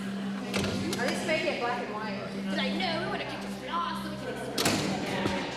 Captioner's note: indistinct chatter